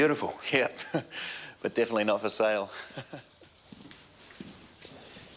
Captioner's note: chuckles